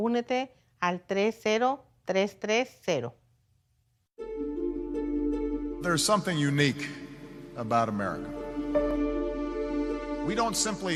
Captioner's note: speaking foreign language